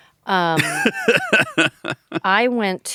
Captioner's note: laughs